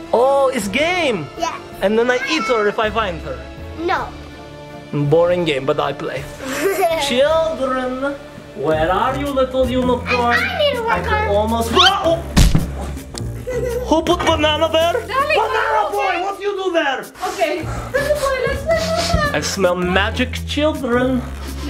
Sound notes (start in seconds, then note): 6.4 laughs; 12.1 audio whistles; 12.3 thuds; 13.3 laughs